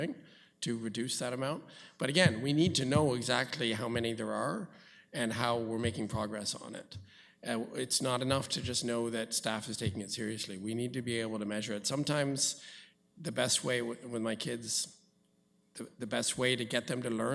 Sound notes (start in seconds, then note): none